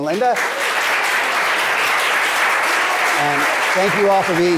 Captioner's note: audience applause